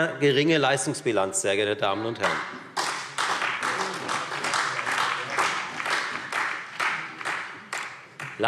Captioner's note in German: Beifall Freie Demokraten und vereinzelt SPD